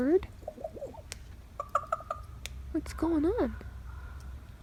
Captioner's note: bird; bird